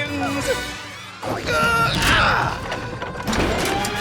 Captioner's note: grunting